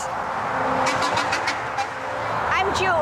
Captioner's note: vehicle whirring; horn honks